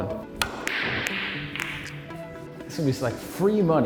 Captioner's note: balls cracking